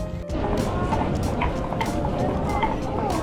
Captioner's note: the sound of wooden shoes are cute